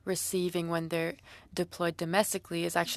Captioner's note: speaking French